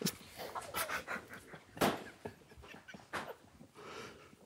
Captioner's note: group quietly laughing